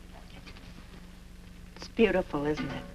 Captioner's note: none